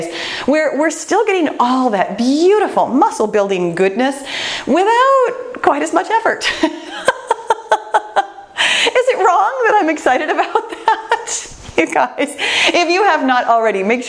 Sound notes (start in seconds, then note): 6.5 laughs